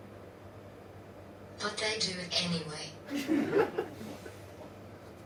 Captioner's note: audience laughs